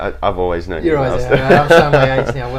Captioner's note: both laughing